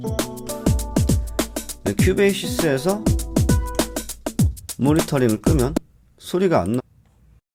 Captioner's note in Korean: 녹음된 소리 재생 소리